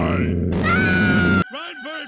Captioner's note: Bart Screams